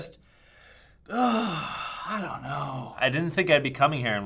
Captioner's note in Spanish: Suspiro